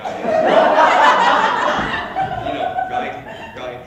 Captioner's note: erupting Laughter